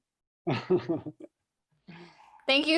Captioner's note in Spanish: ríe